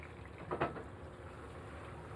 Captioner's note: sizzling